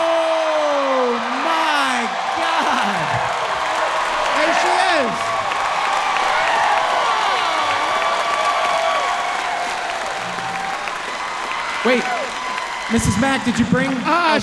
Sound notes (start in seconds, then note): 1.9 audience cheering and clapping loudly